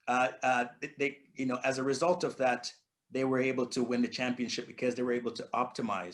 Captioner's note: stammering